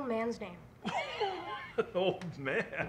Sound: loud laughter

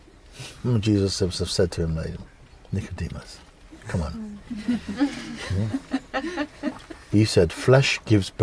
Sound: laughter

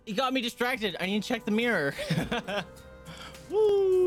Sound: nervouc laugh

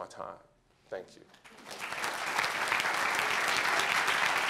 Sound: applause

